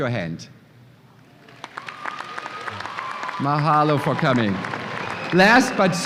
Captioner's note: applause and cheers